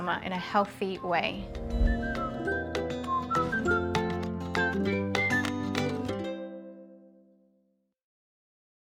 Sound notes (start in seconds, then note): 0.6 upbeat music; 1.3 screen whooshes